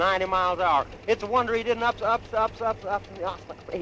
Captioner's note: stuttering